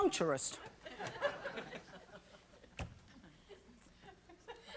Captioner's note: audience laughing